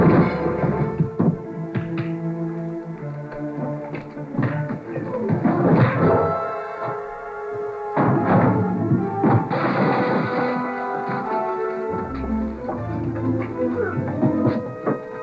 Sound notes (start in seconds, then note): 9.2 tables crashing